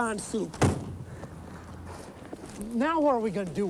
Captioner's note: trunk slamming